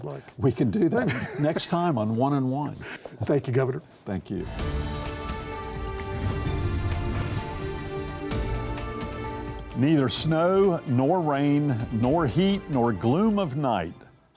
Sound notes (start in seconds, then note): 4.4 exciting music; 4.5 air whooshes